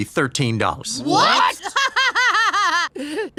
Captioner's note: Louise cackles justifiably